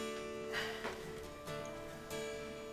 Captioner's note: Tom sighs